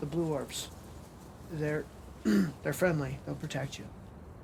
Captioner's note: clears throat